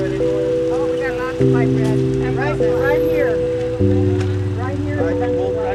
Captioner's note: background chatter